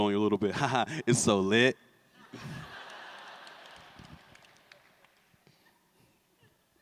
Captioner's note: laughter